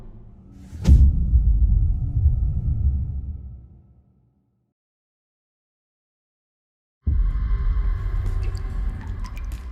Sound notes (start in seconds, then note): 0.1 dramatic sound; 7.8 water dripping